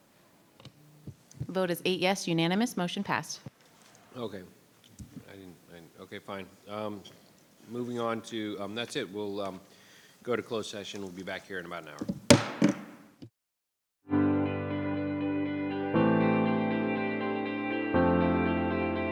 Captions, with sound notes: - Vote is eight yes, unanimous, motion passed. - Okay, I didn't... Okay, fine. Moving on to... That's it, we will go to closed session, we'll be back here in about an hour. (gavel thudding) (gentle instrumental music)